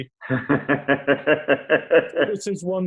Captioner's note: laughs